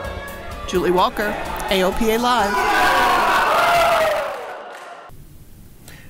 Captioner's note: teachers cheering